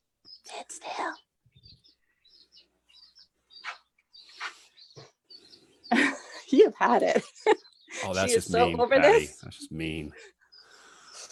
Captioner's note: whispering